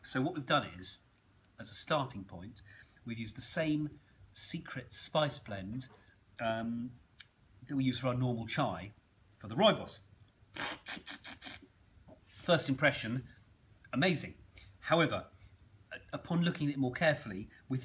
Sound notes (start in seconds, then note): 10.6 slurping